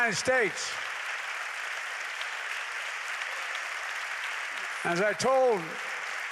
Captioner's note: applause